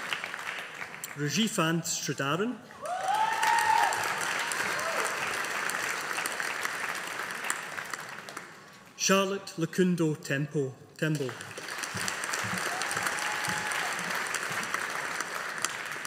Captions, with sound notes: Rishivanth Sridharan. (AUDIENCE APPLAUDING) Charlotte Lukundo Tembo. (AUDIENCE APPLAUDING)